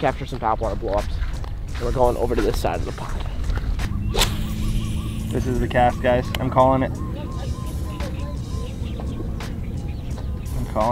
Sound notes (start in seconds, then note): 3.3 fishing line casts; 8.0 birds chirping